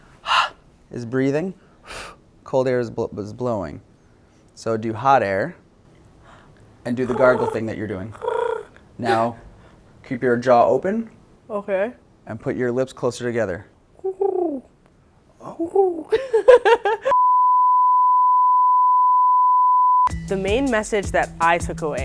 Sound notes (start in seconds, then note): 0.2 exhales; 1.8 exhales; 6.9 exhales; 8.0 mimics a pigeon; 14.0 mimics a pigeon; 15.6 she laughs